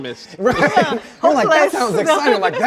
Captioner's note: both laughing